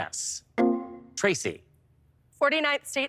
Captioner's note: electric chime